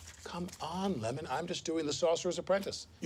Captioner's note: papers rustle